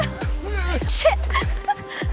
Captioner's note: laughs; midtempo music continues